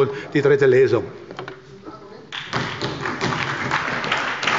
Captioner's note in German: Beifall bei der SPD